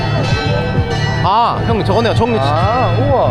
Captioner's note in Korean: 종소리